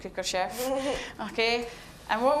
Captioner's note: chuckling